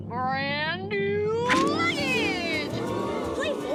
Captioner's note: crowd in awe